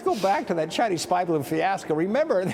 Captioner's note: laughter